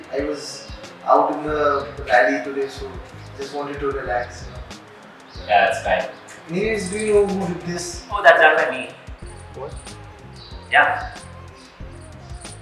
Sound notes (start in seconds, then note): 9.5 whispers in shock